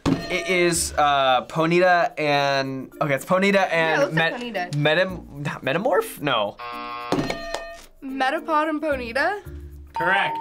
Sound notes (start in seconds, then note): 6.6 buzzer